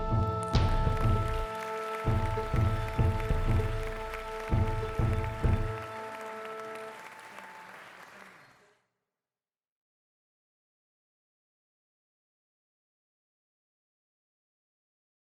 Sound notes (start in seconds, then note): 0.3 audience clapping